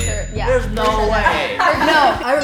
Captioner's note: laughing